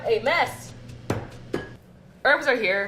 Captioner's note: grinding herbs